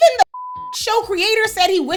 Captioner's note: beep